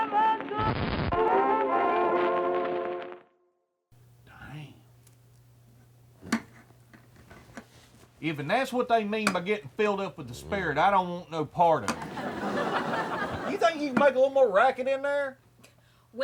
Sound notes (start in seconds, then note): 11.9 audience laughs